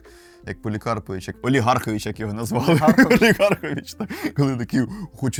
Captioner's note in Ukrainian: сміх